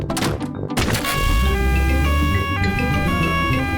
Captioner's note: siren wailing